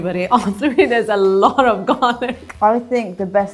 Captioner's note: laughs